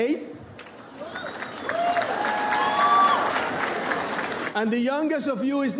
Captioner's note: audience applauds